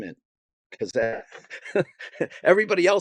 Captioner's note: laughing